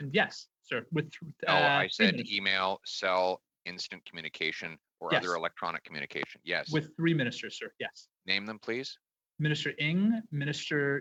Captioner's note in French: voix de l'interprète